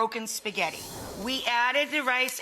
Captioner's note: whooshing